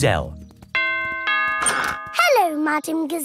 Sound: doorbell rings

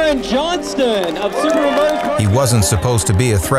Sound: crowd drowns out announcer

